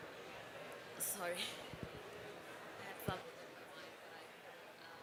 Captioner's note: background chatter